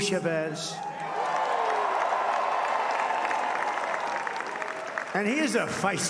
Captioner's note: applause